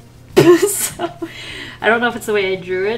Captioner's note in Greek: Γέλια